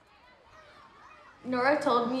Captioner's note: students chattering